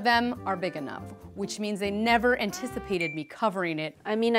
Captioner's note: ding; ping